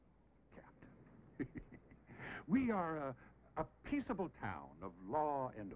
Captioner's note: laughs